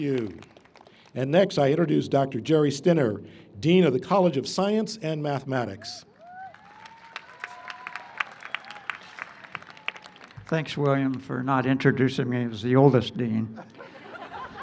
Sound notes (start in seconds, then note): 6.2 applause; 13.5 laughter